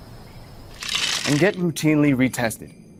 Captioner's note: sweets crack